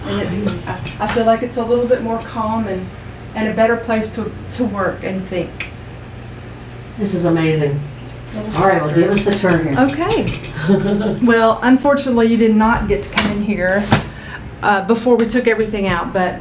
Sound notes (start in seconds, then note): 10.4 laughs